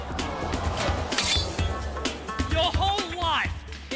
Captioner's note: audience gasps